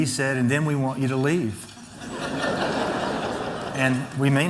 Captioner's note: laughter